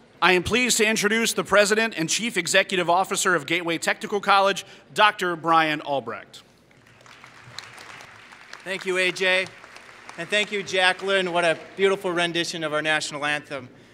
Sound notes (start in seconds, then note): 6.6 applause